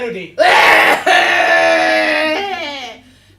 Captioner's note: coughs